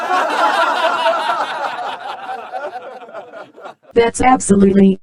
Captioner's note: laugh track